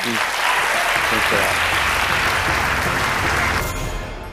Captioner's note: applause